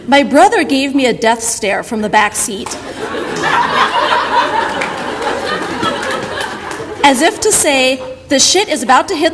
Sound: audience laughter

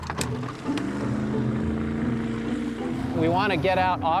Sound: engine starts

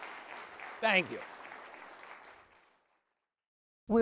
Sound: applause

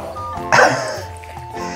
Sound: laughs

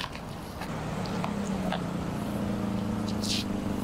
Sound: engine hums

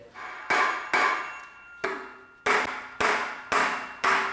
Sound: metal banging

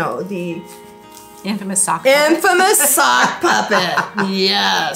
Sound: laughing

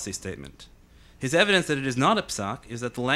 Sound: speaking in foreign language

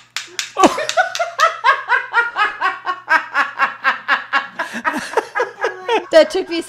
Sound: laughs; mother in video laughs

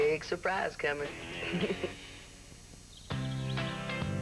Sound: chuckles

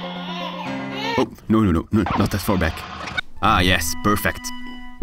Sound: baby crying

